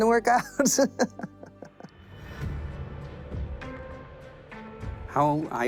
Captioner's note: laughs